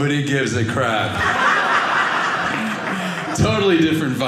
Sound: audience laughing

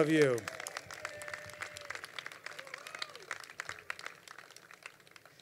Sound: crowd applauding

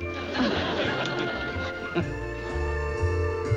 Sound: laughs

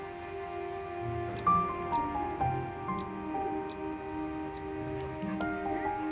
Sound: birds chirping

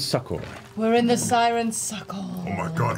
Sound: mystical voice

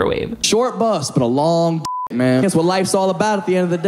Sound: beep

